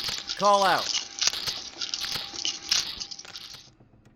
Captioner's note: Bahro echolocation